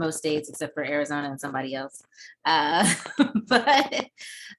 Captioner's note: laughs